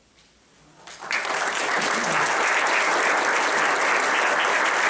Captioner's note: audience applauding